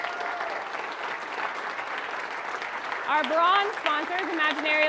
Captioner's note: audience applauding